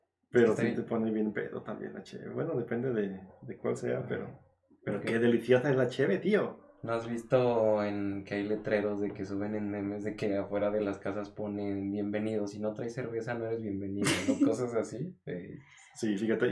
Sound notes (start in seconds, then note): 5.9 in Spaniard accent